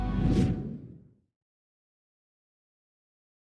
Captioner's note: air swooshing